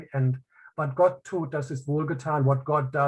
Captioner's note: speaking in native language